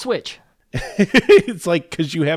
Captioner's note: laugh